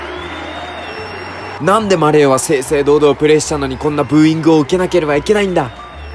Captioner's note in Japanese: ブーイングの音